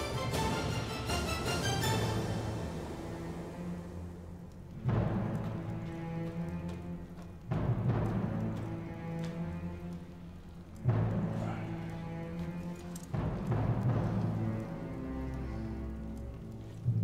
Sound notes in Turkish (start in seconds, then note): 4.8 Alev sesi; 4.8 Müzik - Gerilim